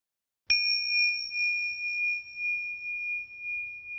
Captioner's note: bell ringing